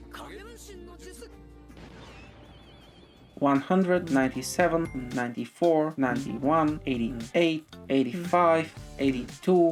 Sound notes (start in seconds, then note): 1.8 clones blast